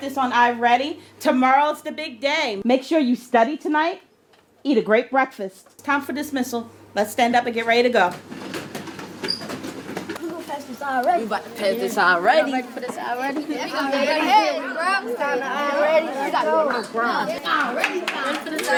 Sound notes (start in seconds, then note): 10.1 students chattering